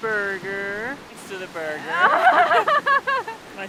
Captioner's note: laughs